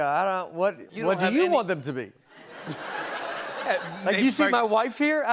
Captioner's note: laughter